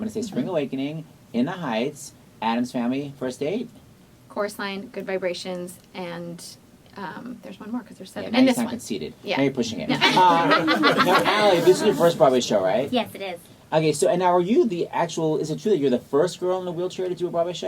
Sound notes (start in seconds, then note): 9.9 laughs; 9.9 laughter